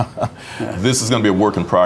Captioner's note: laughing